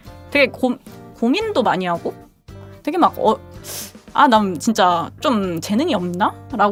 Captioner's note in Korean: 콧방귀